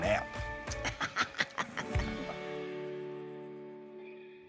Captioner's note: laughs